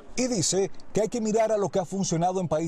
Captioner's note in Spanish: hablando en inglés